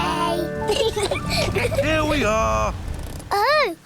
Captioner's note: both laugh